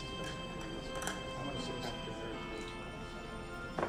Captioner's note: background talking